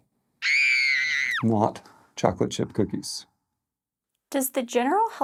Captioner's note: screams